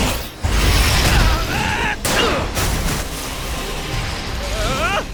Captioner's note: screaming